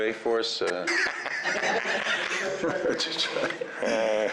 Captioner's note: laughter